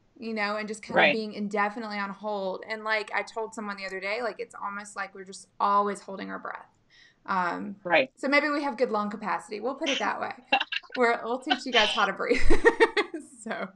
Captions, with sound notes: "and just being indefinitely on hold." And like I told someone the other day, it's almost like we're just always holding our breath. - Right. - So maybe we have good lung capacity, we'll put it that way. (laughing) We'll teach you guys how to breathe.